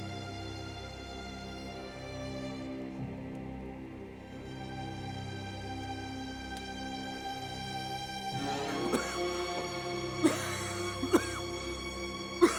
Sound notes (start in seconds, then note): 10.2 coughing